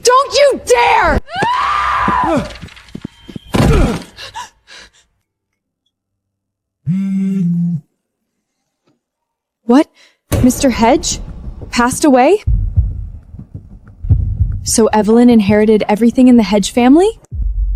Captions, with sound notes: Don't you dare! (screaming) (gasping) What? Mr. Hedge passed away? So Evelyn inherited everything in the Hedge family?